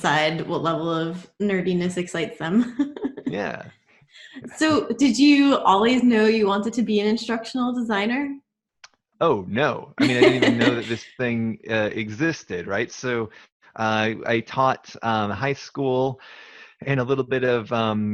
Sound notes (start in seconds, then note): 2.6 laughs; 10.0 laughs